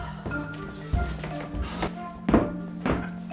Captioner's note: sighs